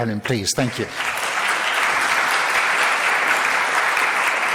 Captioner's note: crowd applauds